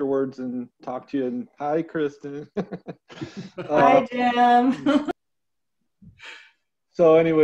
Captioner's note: chuckling